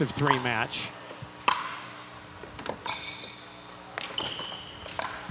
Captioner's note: ball bouncing